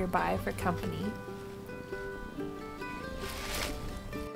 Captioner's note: cat purring